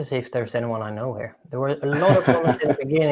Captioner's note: laughing